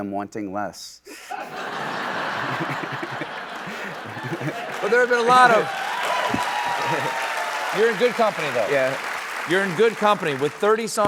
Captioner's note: laughter and cheering